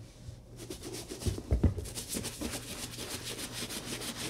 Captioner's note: brush scrubbing